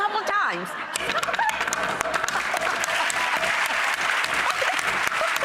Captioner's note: audience applauds; hammering; laughing